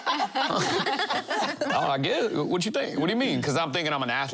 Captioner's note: laughter